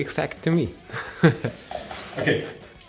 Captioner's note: laughs